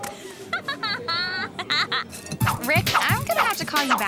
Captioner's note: gasps; laughter